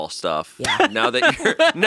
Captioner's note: laughing